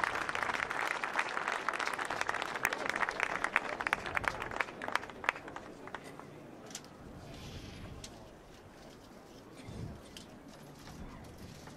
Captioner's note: applause